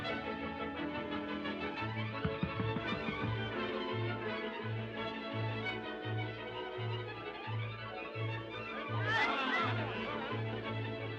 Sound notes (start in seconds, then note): 2.2 knocking; 8.5 clamoring